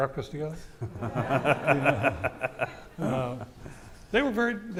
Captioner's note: audience laughing